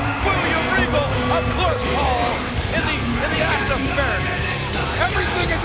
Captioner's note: presenter speaking faintly off mic